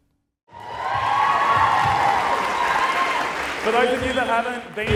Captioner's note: people cheering